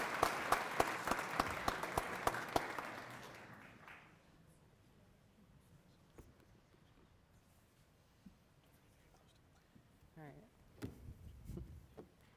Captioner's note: applause